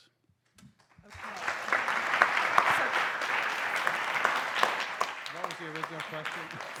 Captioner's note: applause